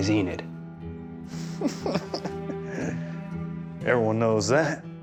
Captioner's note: snickering